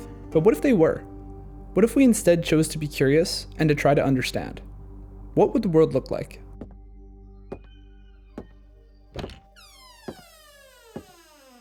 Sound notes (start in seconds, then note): 6.8 heavy footsteps; 9.1 creaky bar door opens